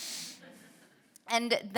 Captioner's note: audience laughing